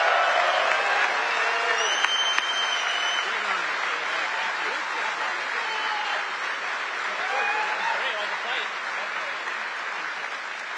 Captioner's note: applause